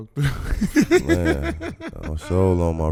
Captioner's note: laughing